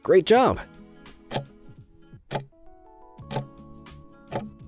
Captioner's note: timer ticking